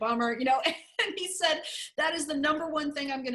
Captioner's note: laughter